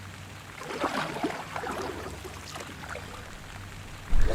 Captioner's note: waves splashing